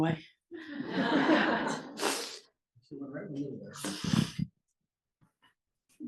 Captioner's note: laugh